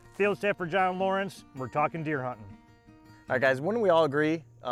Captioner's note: none